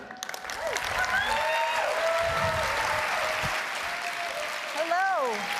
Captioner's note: applause and Cheering